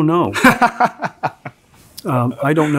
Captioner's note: laughs